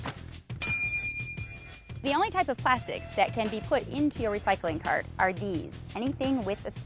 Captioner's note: ding